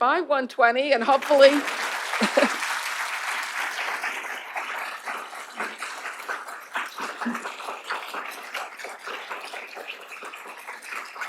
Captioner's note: applause